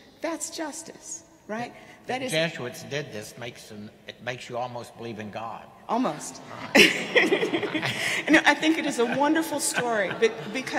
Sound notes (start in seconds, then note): 6.5 both laughing